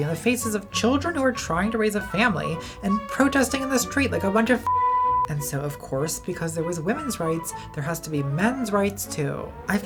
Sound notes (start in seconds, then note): 4.6 beep